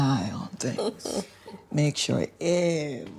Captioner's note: chuckling